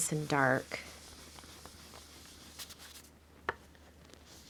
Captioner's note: brush scrubbing